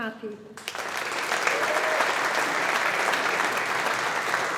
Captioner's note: audience applauding